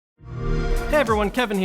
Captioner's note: xbox sound